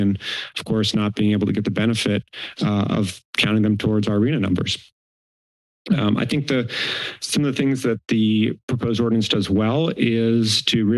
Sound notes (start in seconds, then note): 6.6 inhales